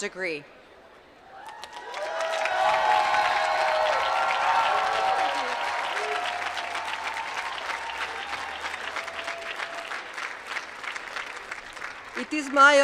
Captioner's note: applause